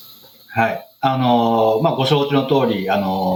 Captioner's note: speaking japanese